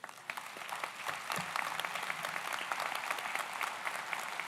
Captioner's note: audience applauds